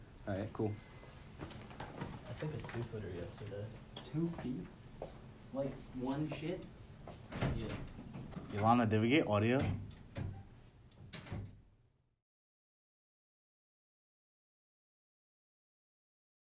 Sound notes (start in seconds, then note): 11.0 door Shuts